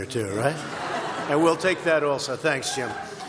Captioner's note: laughter